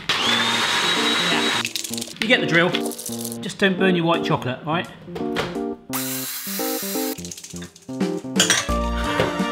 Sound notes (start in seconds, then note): 0.0 blender whirs; 6.1 machine whirs; 7.5 playful music